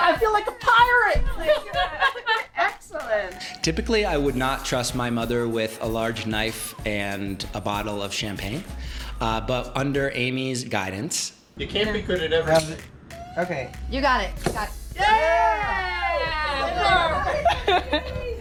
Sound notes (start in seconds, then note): 1.2 laughter; 14.9 loud cheering